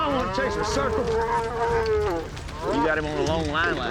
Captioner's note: mooing